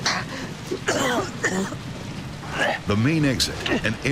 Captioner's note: coughs